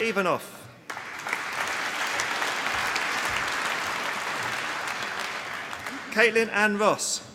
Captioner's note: applause